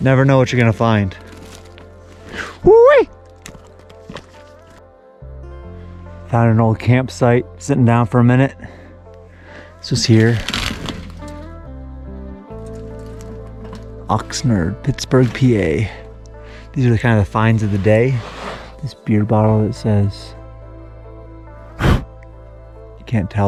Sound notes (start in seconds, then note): 11.2 metal scratching; 21.8 blowing on bottle